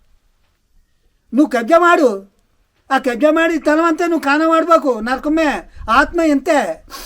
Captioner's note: speaking telugu